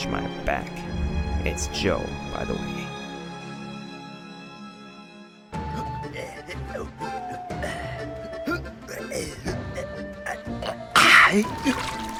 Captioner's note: furious tense rowing noises